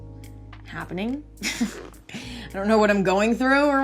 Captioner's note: chuckles